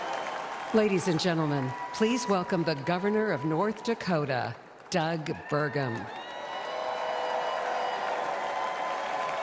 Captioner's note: applause